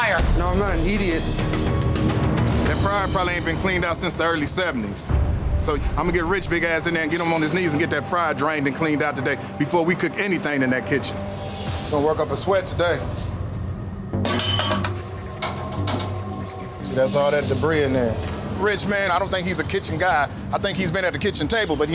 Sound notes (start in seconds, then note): 14.2 clattering